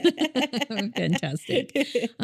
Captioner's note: both laughing